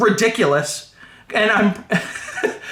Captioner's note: awkward laughter